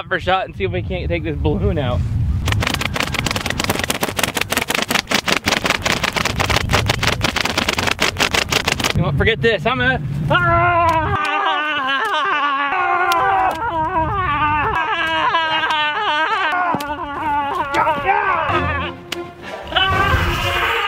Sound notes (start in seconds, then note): 10.5 both yelling; 18.4 epic music